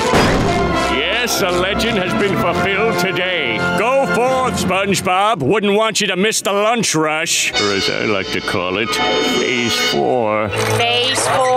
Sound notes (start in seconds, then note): none